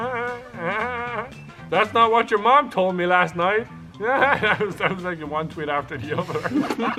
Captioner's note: spit